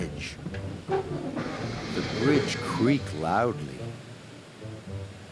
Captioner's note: rumbling